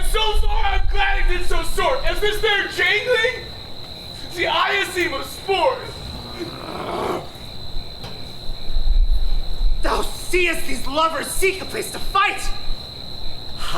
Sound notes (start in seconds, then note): 5.8 Oberon growls